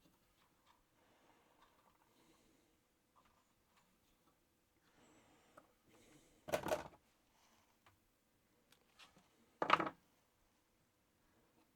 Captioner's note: silence